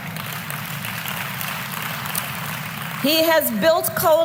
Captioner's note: applause